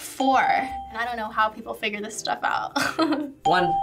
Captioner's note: chuckles